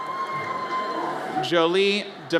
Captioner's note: audience cheers